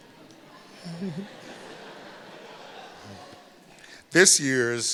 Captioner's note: laughter